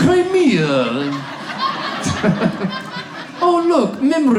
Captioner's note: audience laughs